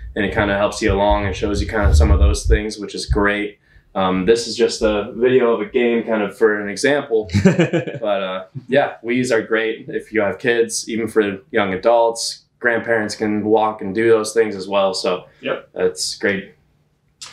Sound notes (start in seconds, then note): 7.2 laughs